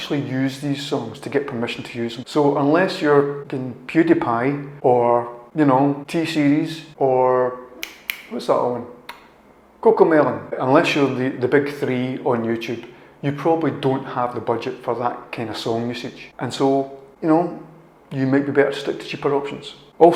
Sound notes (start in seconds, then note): 7.8 fingersnaps trying to remember